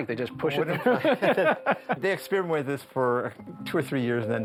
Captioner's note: laughter